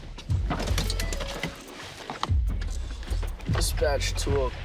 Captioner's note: car beeps